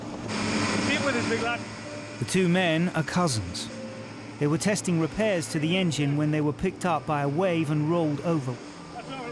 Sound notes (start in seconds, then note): 0.2 engine revving